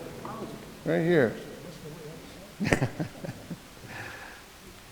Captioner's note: chuckles